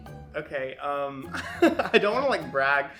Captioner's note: laughing